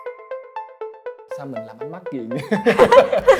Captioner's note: laugh